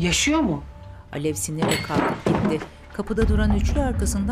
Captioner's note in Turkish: Bardak devrilme sesi